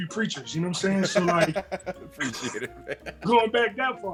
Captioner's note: laugh